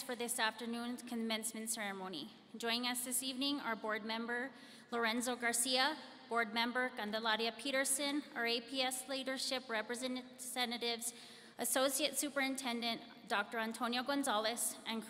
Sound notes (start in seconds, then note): none